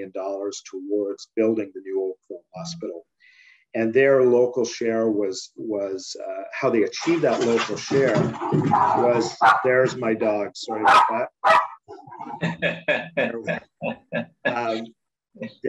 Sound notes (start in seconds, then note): 10.8 dog barks; 12.4 laughs